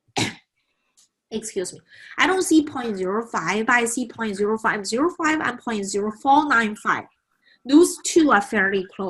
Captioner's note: cough